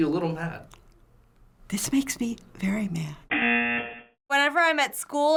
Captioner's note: buzzer